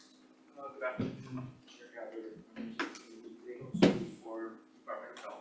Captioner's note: faintly speaking